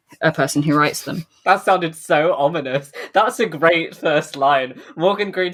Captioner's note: laughing